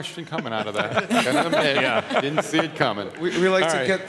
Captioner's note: laughing